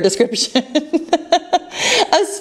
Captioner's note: laughs